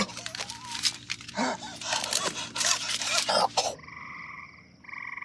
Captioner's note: splutters; breathes heavily; frog and insect noises